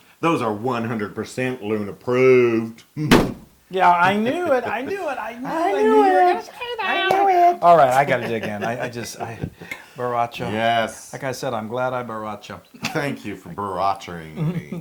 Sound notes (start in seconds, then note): 7.7 laugh